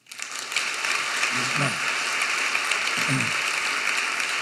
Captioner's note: audience applauding